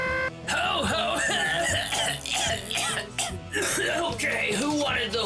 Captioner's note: wacky music; coughing